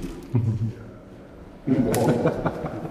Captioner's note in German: Herzliche Laute, Lachen